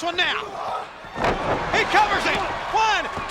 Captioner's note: wrestlers thuds